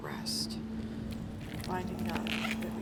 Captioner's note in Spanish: huesos crujiendo